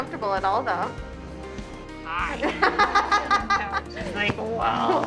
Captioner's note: laughing